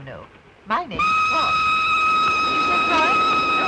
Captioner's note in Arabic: صافرة القطار